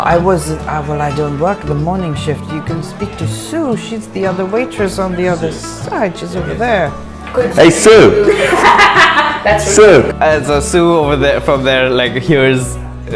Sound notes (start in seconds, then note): 8.1 laughter